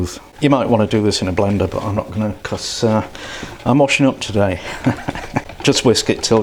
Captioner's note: laughs